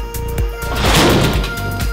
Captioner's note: thud!